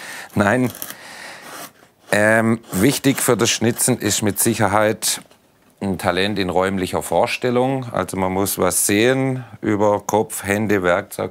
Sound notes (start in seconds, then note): none